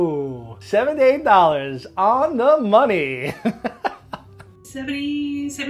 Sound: laughing

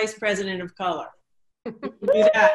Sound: everyone celebrating

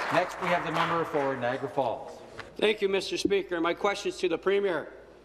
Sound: some Applause

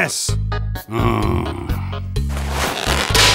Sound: sigh

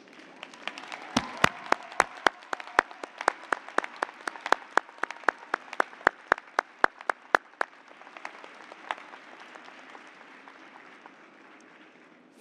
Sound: cheers and applause

